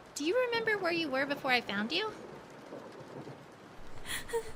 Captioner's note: none